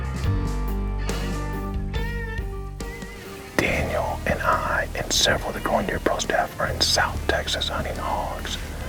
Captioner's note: whispering